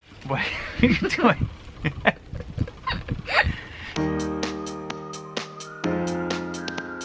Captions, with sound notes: - What are you doing? (both giggling) (cheerful music)